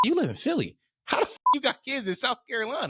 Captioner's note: beep